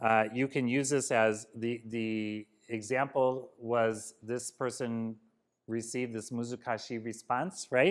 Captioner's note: japanese